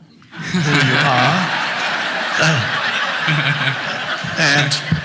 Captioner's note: audience laughs